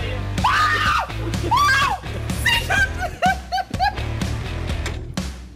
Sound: screaming; laughing

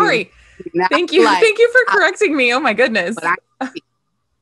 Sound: laughs

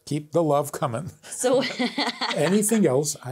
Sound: both laughing

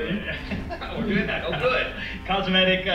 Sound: laughing

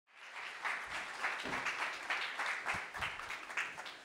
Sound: audience applauding

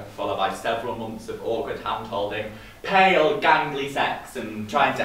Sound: none

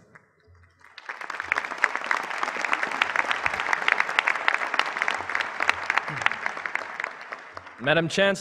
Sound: applause

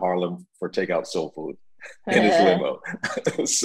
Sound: laughs

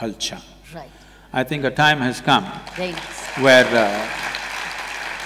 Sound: applause

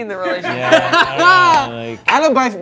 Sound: group laughing

